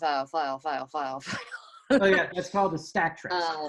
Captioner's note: giggles